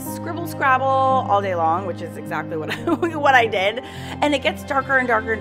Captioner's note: laughing